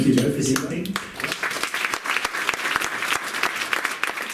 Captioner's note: all applauding